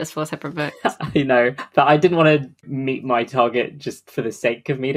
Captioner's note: laughs